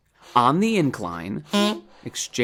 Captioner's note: beep